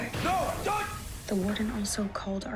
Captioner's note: screaming